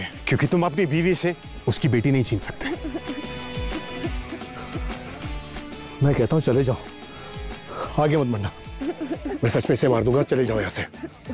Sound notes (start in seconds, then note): 2.6 Girl crying; 8.8 Girl crying